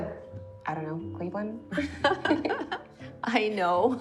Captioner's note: laughing